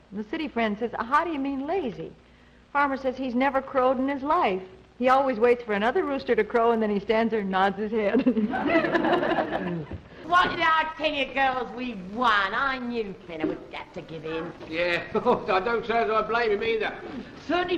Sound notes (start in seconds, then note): 8.3 audience laughing